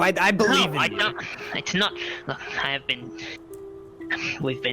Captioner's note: sigh